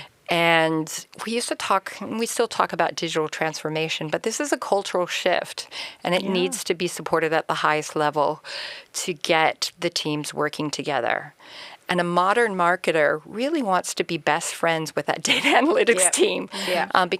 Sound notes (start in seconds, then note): 15.4 laughs